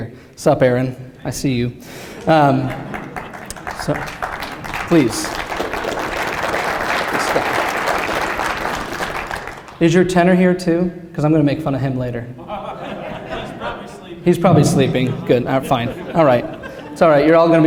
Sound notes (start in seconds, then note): 6.2 applause; 12.4 laughter